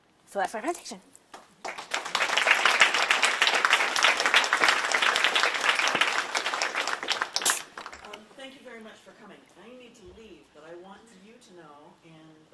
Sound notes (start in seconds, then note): 1.3 applause